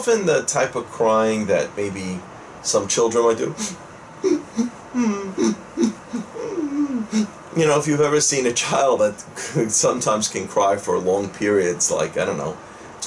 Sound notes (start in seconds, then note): 4.2 sobbing sounds